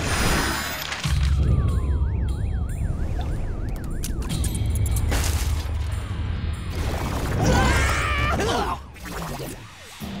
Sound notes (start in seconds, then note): 7.4 screaming